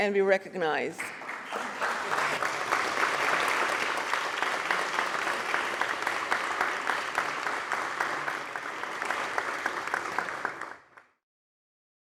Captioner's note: applause